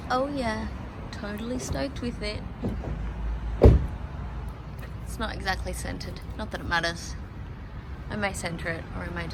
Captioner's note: sings; car door slams